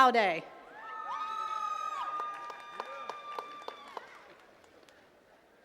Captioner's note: attendees cheering and clapping